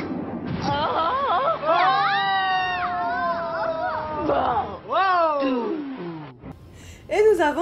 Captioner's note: screams